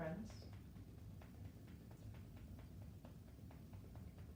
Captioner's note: gentle tapping